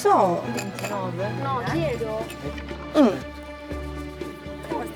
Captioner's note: archeologic chattering